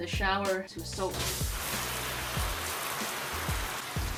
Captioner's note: splashing